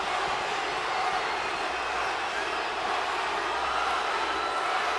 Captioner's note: crowd cheering